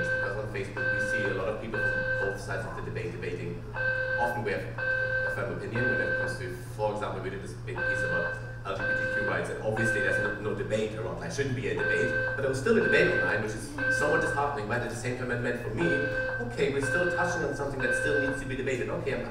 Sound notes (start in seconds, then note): 3.6 alarm drowns out